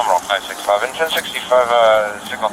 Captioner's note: radio chatter